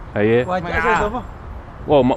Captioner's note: somali